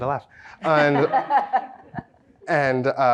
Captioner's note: laughs